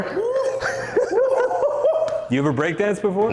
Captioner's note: laughing